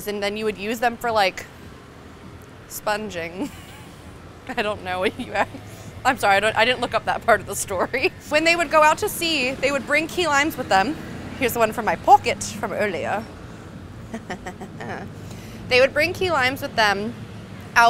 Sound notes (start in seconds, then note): 14.0 snickering